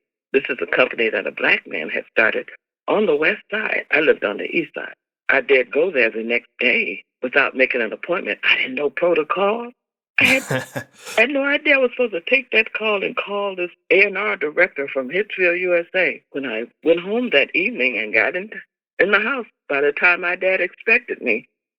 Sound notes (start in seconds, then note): 10.2 laughter